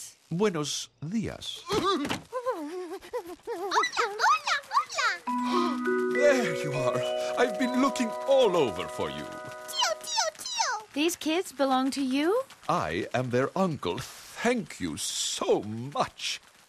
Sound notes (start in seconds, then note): 2.3 whimper; 5.4 gasps